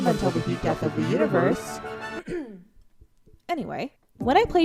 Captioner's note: clears throat